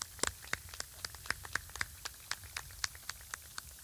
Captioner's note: applause